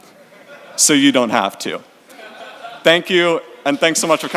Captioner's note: audience laughs